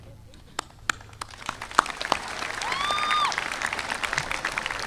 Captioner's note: audience applauding